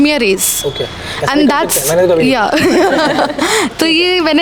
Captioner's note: everyone laughed